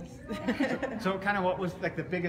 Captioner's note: laughs